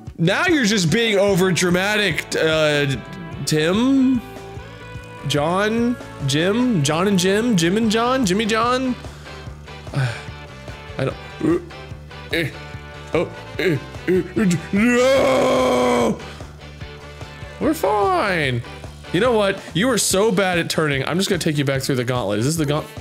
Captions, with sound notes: now you're just being over dramatic da uhhh Tim? John? Jim? John and Jim? Jim and John? Jimmy John? uh I don't (grunting) eh oh (grunting) NOOOOOOO! we're fine you know what? you are so bad at turning, I'm just gonna take you back through the gauntlet, is this the gaunt-?